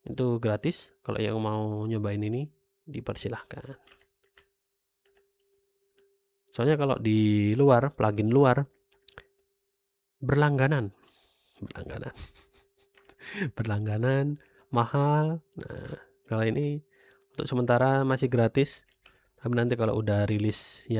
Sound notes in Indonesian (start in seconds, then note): 12.1 tertawa